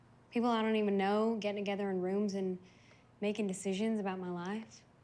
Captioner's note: none